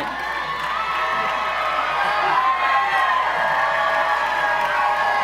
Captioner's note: audience applause